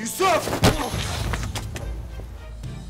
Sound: thump

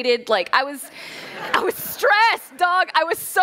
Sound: laughter

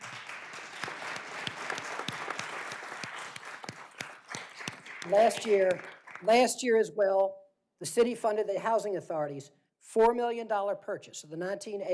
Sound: applause

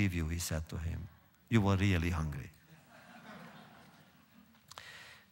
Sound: laughter

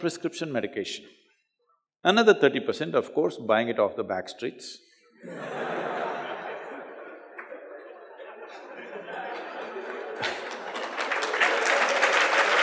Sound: laughter/Applause

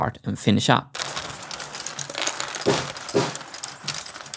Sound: marbles rolling

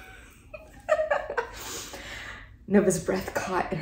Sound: laughs

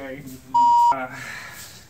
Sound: beep

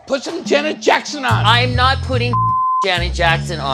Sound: beep

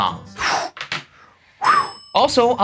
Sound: breathing sigh of relief

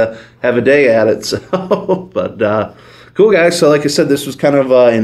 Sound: laughs

